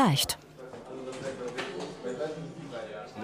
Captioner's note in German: Stimmengewirr